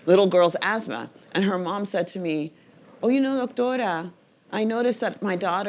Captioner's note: speaking in foreign language